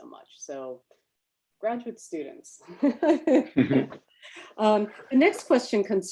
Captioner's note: laughs